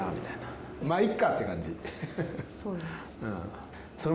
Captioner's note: laughs